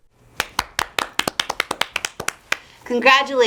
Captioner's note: both applauding